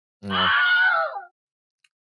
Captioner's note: ungodly shriek